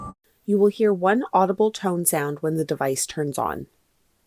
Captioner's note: machine beeping